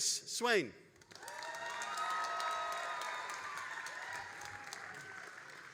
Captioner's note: all applauding and cheering